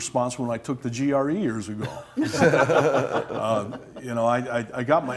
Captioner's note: laughter